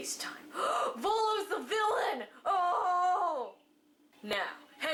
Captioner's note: gasp